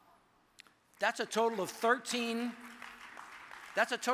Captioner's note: audience applauds